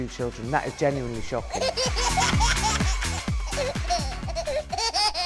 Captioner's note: baby laughs